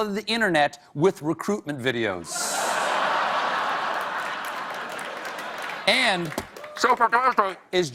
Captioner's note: laughter